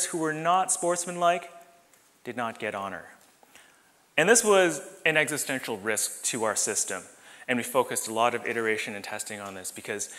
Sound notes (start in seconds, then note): none